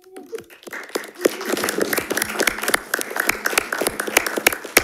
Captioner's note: attendees applauding